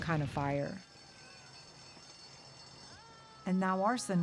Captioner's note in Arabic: رنين إنذار الحريق